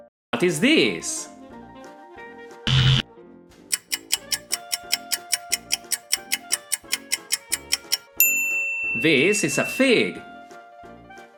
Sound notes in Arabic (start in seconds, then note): 2.6 صوت طنين; 3.7 صوت ساعة